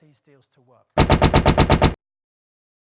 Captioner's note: banging